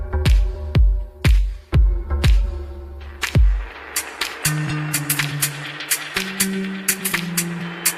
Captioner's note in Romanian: Aplauze